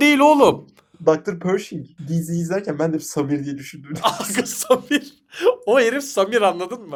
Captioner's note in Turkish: kahkaha